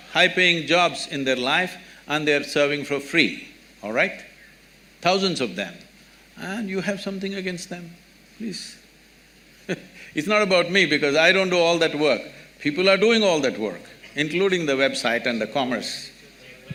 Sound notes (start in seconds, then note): 9.0 laughs